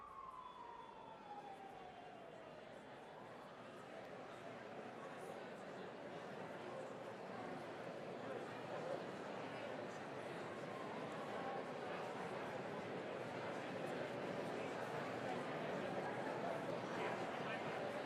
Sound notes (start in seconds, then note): 0.5 crowd chatters